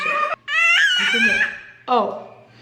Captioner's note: screaming